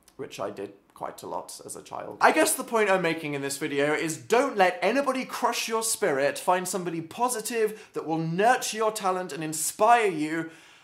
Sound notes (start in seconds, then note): none